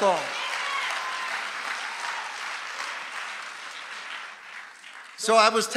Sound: congregation applauding

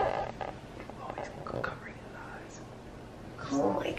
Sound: whispering

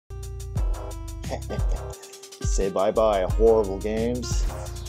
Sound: chuckles

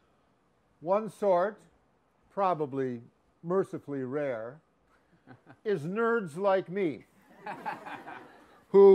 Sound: laughs

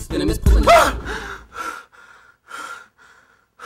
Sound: Ricky screams

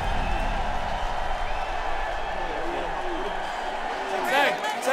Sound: cheers and applause

